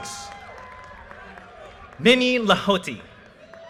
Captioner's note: audience cheers and applause